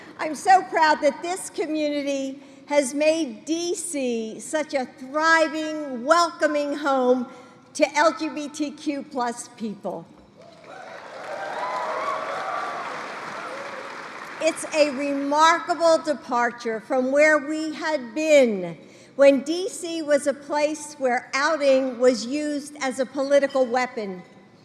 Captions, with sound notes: I'm so proud that this community has made D.C. such a thriving, welcoming home to LGBTQ+ people. (Applause.) It's a remarkable departure from where we had been, when D.C. was a place where outing was used as a political weapon.